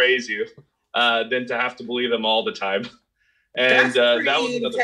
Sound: laughs

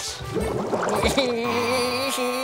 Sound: giggling

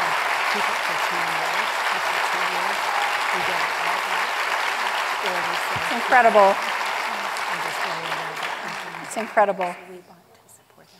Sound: applause

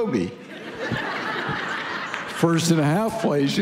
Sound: congregation laughing

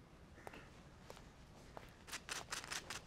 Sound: footsteps

